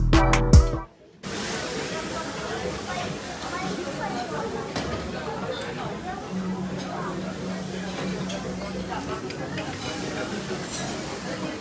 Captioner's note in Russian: звуки готовки